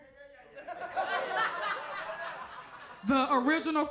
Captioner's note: audience laughs